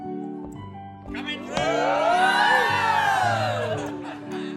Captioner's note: cheering; laughter